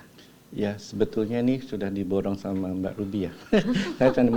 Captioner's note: laugh